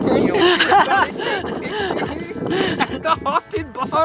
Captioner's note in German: lacht